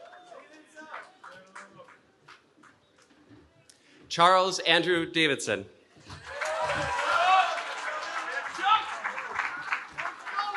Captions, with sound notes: Charles Andrew Davidson. [CHEERING]